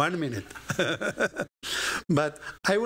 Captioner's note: laughter